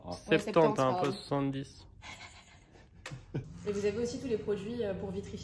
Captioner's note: laughs